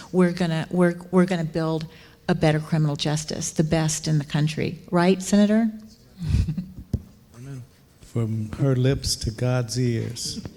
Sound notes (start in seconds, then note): 6.2 chuckling